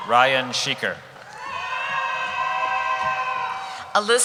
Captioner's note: cheering